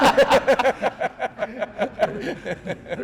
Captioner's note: laughs